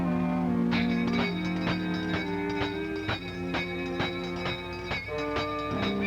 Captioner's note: hand bell ringing loudly